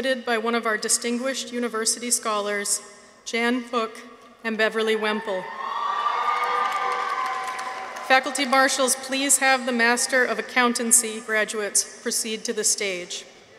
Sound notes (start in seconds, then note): 5.0 audience cheers; 5.5 audience applauds